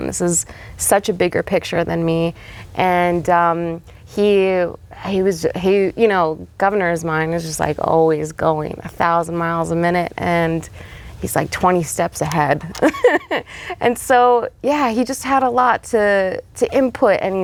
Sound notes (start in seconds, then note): 12.8 laughs